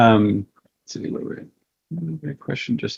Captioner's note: murmurs